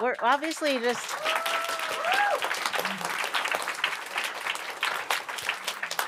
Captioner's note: applause